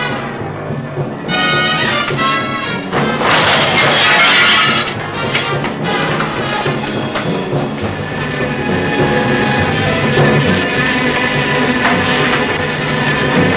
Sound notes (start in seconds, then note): 3.3 glass shattering; 9.2 loud buzzing